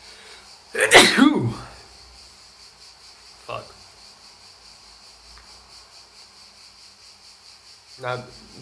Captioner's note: sneeze